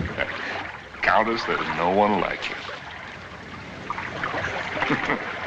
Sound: chuckles

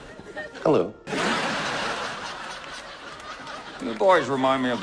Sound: light laugh; louder laugh

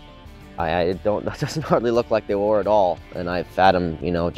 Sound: laughs

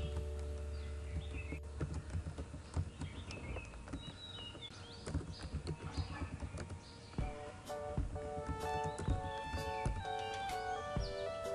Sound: typing

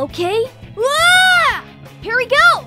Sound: Tails proceeds to scream

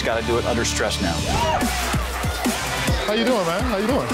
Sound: customers cheering

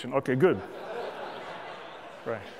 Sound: laughter

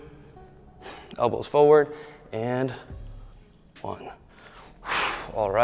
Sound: exhales; exhales

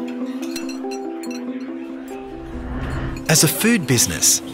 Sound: Cutler clinks, low chatter

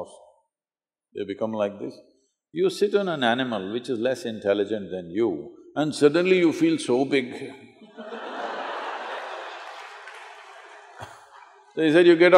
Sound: laughter

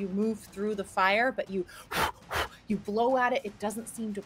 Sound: blows

